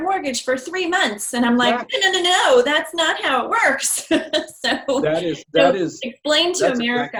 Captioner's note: laughing